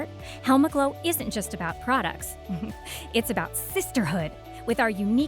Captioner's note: heh